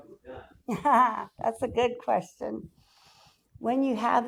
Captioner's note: laughs